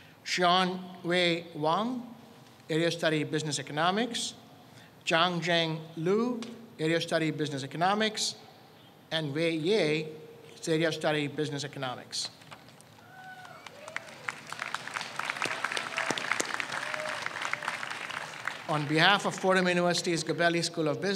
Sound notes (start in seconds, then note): 13.1 audience applauds